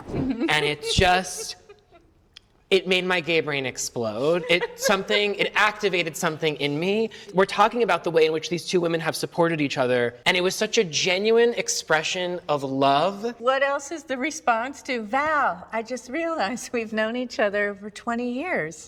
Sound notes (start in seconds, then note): 4.2 lisa laughs